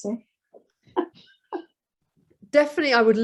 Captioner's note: chuckles